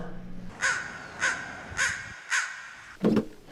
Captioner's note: crow cawing